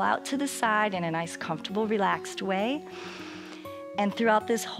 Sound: inhales

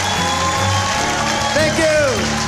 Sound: applause and cheering

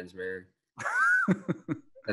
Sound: laughing

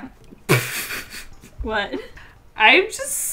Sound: laughs

